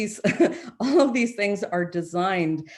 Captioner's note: chuckles